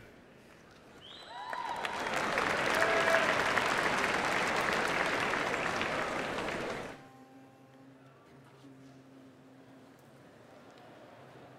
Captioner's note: applause